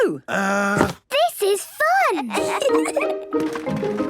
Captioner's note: kids giggling